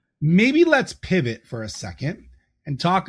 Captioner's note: none